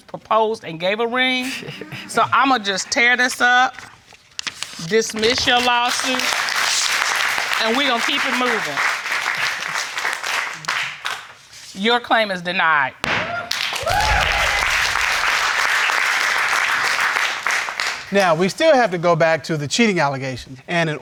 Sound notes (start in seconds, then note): 5.6 audience applauding; 13.2 audience cheering